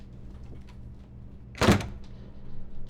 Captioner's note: door slams